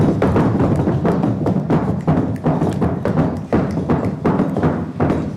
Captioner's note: crowd stomping their feet